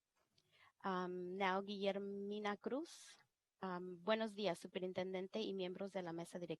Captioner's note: speaking in foreign language